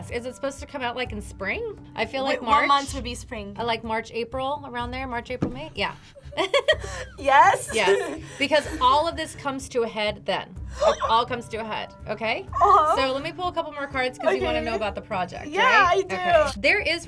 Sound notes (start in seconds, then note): 6.4 laughs; 10.7 gasps